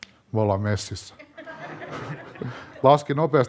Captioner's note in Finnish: yleisö nauraa